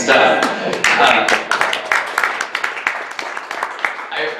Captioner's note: audience clapping